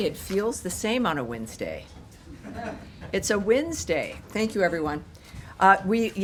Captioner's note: laughter